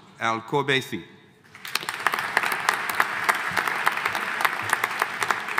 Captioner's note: audience applauding